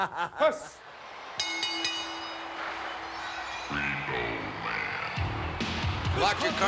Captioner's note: laugh